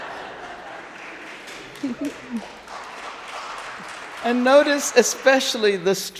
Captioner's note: audience laughing; audience applauding